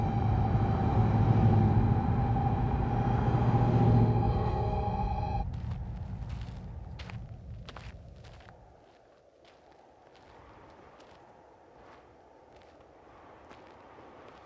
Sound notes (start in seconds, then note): 5.1 wind whistling